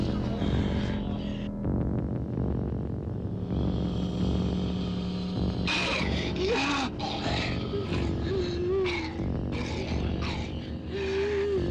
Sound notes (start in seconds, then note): 5.6 snarling